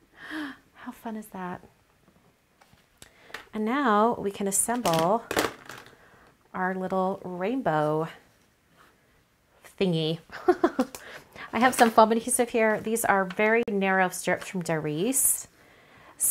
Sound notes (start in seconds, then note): 0.1 gasp; 10.4 laughs